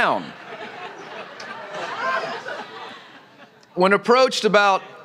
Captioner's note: laughter